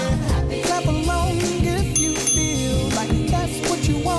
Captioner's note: ding ding!